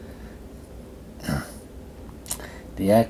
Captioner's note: clears throat